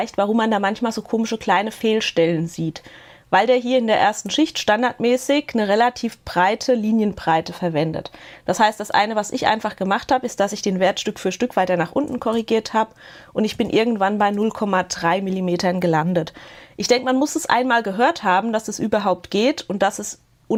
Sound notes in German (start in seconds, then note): none